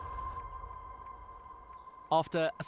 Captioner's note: birdsong